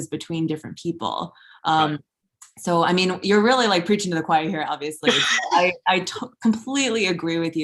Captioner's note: laughs